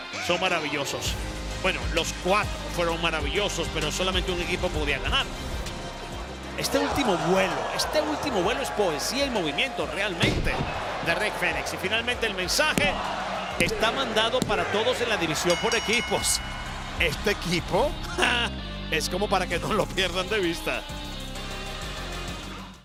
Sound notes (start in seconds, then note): 18.0 laugh